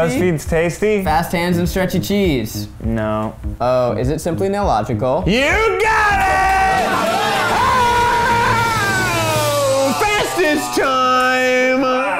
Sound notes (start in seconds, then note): 5.9 cheering